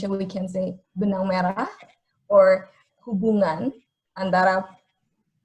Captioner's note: speaking in foreign language